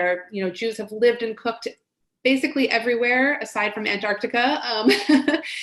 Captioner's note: laughs